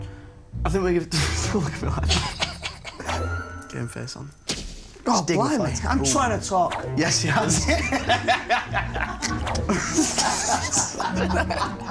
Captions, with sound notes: I think we can give-- [LAUGHS THEN MUTTERS] Game face on. -Gorblimey. I'm trying to talk. -He's dignified. Yes, he has. [LAUGHING] [BOTH LAUGHING]